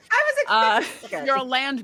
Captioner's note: people laughing